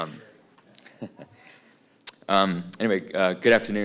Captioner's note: laughter